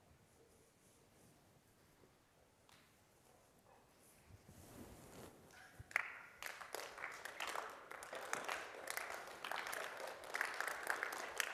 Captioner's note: applause